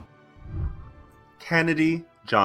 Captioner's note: whooshing